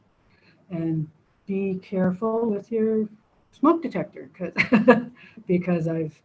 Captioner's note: laughs